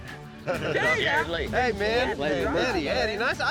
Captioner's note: all chatting